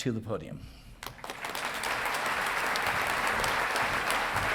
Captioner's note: audience clapping